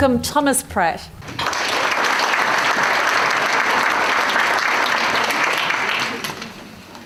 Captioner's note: audience applause